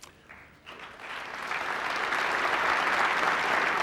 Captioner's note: applause